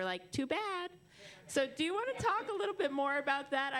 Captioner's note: laughter